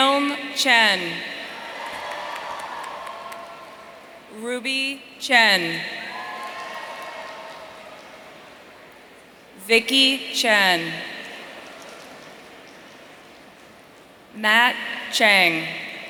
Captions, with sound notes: Kiln Chen. (audience cheering) Ruby Chen. (audience cheering) Vicky Chen. Matt Cheng.